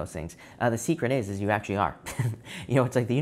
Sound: chuckling

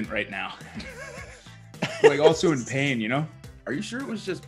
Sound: laugh

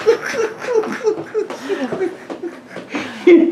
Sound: laughter

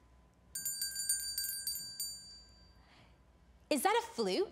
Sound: bell ringing

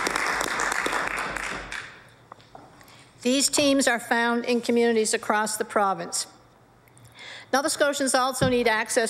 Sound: applause

